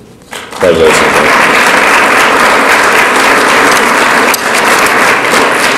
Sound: audience applauds

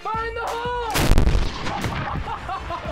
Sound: gunshot; laughter

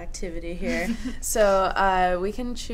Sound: laughs

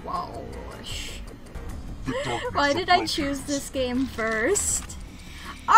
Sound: laughs

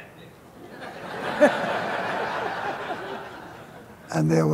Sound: laughter

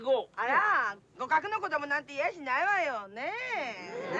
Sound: speaking Japanese

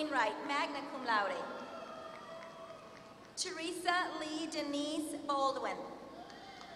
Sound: applause; applause

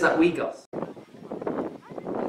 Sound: wind noise

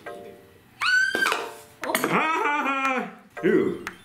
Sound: scream; pop; laughing

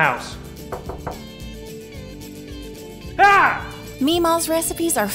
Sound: knocking

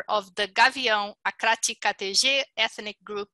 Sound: foreign language

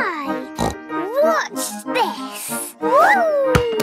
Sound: snorts

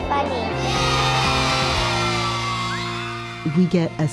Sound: children cheer

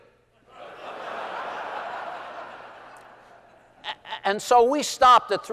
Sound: laughter

